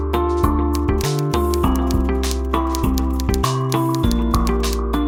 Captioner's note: upbeat music; typing noises